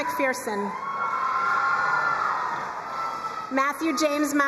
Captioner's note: crowd cheering and applauding